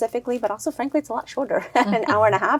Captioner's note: chuckles